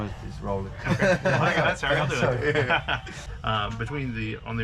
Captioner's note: laughs